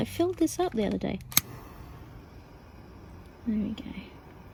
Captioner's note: lighter clicks and flame starts hissing again